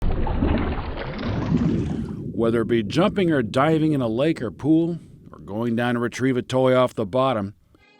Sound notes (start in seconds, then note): 0.0 water bubbling